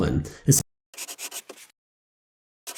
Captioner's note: pencil scratching